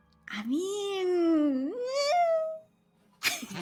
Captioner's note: groans; people chuckling